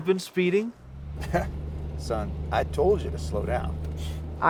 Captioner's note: chuckles